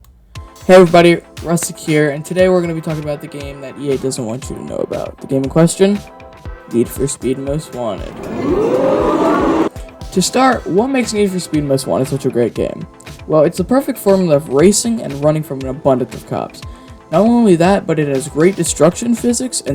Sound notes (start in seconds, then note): 8.0 crowd excitement